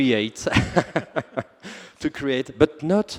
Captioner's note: laughter